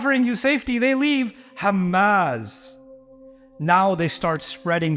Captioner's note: Arabic